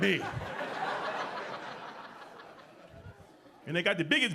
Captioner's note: audience laughing